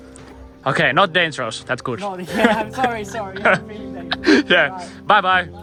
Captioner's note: laughter